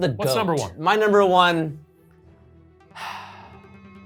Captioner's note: sighs